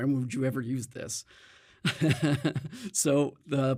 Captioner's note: chuckles